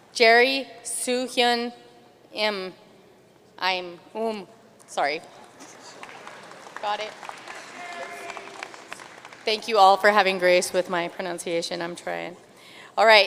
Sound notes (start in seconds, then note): 7.9 audience cheering and applauding